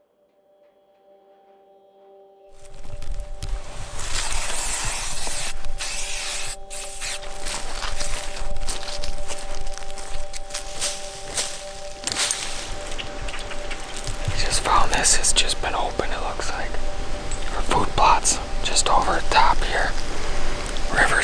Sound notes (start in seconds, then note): 0.2 ambient music; 3.5 aerosol spraying